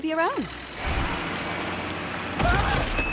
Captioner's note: truck engine rumbling